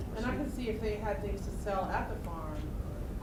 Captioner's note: voiceover